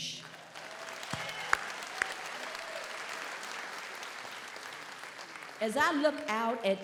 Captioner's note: audience applauds; audience cheers